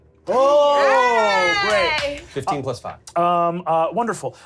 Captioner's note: cheers